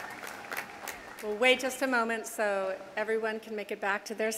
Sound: applause

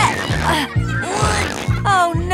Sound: grunting

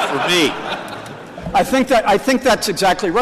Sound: laughter

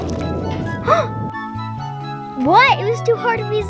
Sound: gasps

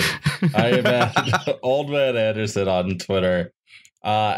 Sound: laughs; laughs

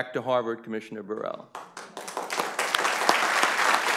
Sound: applause

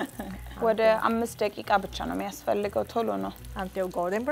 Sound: speaking Amharic

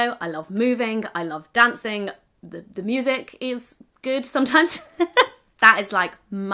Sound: laughs

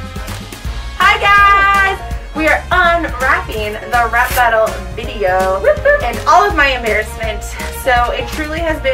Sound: cheering

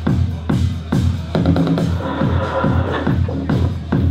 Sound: on walky talky starts

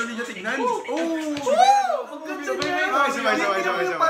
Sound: simp noises

